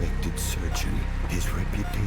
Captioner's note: machines beeping